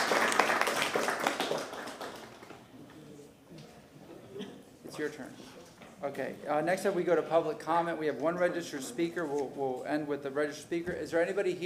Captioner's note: applause